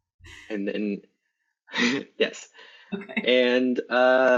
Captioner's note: laughs